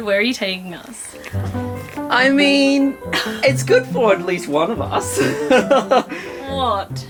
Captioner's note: laughs